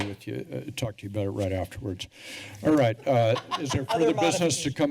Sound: laughter

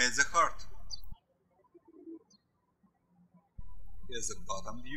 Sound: birds chirping

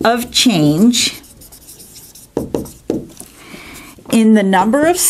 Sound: sound of marker writing

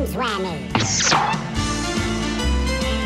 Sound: pop! Squeak!

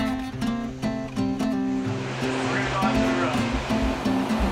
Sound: factory hum

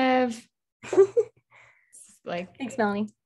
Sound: laughs

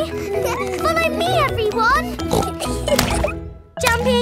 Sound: giggles; snorts; giggling

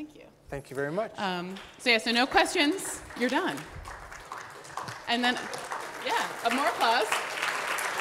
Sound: audience clapping

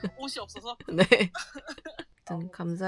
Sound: laughing because I know it's ridiculous

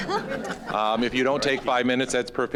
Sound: audience laughing

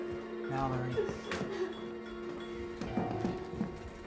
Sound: crying

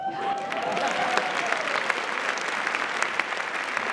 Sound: audience cheering

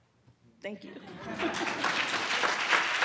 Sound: audience laughs; audience claps

